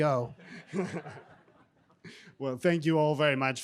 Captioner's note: group chuckling